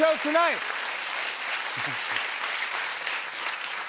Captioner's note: cheers and applause